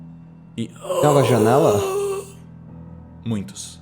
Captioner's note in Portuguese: Grunhidos de Existidos